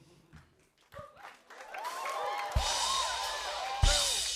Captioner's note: cheers and applause